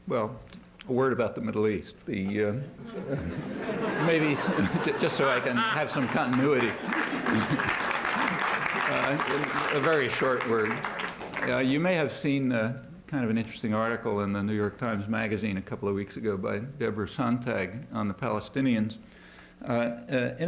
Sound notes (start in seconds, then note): 2.7 laughter; 6.7 applause